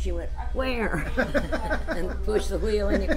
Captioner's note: laughs